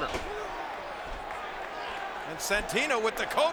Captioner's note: applause